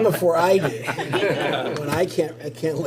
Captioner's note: laughter